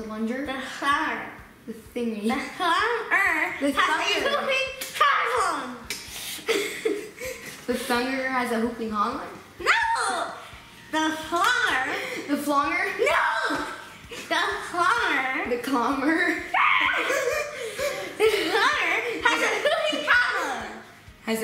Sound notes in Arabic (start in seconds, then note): 16.5 صراخ